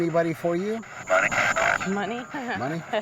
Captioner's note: spirit box voice; chuckling